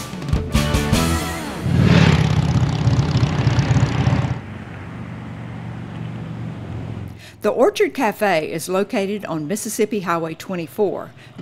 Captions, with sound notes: (motorcycle purrs past) The Orchard Cafe is located on Mississippi Highway 24